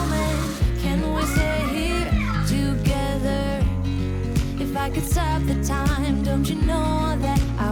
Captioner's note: laughs